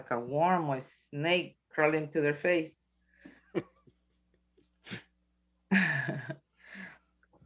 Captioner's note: chuckles